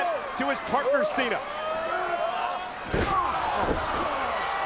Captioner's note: body thudding